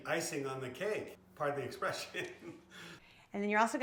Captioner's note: laughs